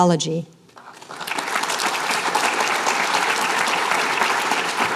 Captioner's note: applause